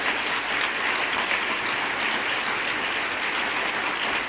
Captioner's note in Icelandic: fagnaðarlæti